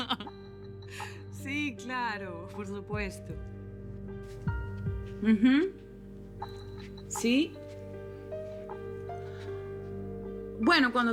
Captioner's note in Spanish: Risas